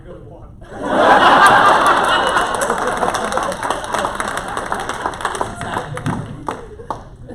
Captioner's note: laughter